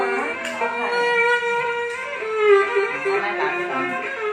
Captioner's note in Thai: ปรบมือ